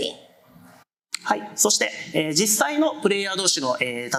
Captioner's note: speaking japanese